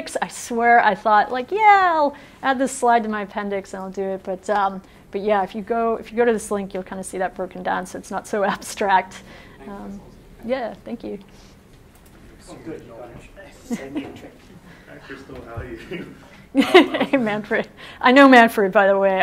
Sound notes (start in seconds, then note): 16.5 laughs